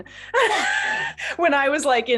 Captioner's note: chuckles